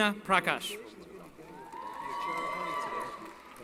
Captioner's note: cheering